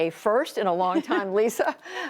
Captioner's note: laughter